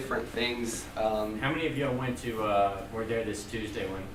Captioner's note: voiceover